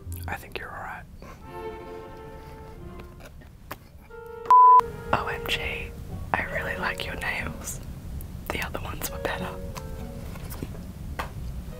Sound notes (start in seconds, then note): 1.6 snickering; 4.2 beeps